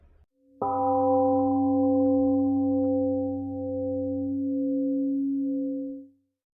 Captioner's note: temple gong rings and fades 🎵